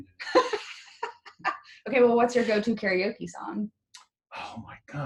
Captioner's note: laughs